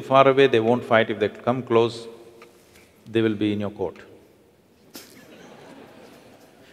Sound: laughter

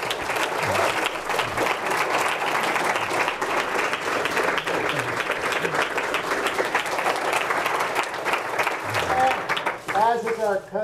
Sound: audience clapping

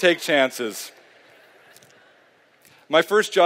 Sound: laughter

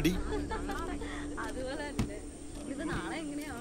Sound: counting cash

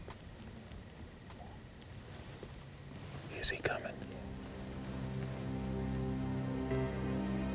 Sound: whispering

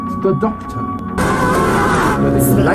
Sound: cyber-screams

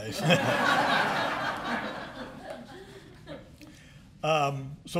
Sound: laughter

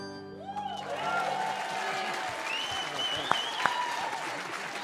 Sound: audience cheering

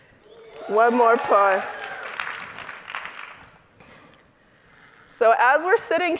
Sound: audience applauding

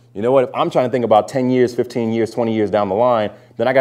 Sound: none

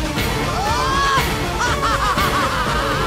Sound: laughing

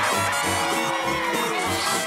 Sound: whimpering

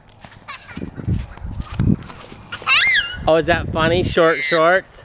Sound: laughs

